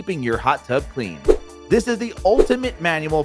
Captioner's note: air whooshing